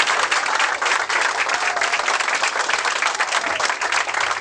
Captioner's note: audience applauds